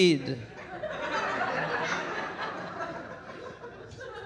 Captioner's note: audience laughing